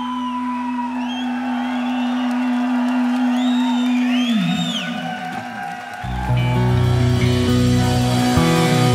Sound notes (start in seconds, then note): 0.0 whistling; 0.0 cheering